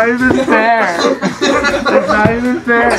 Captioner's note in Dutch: Gelach